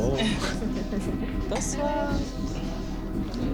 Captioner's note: speaking french